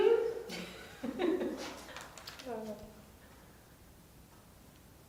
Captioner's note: laughter